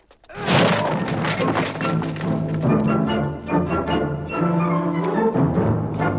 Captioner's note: door slams; guard groans